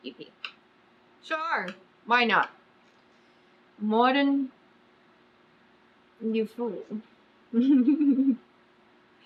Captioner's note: laughs